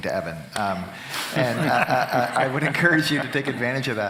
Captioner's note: laughing